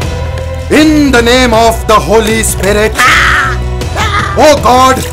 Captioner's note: Screaming